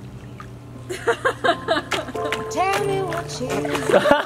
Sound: calm music; mom laughing

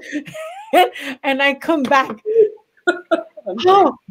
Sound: laughs; laughs

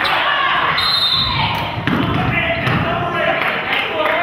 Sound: whistle blows

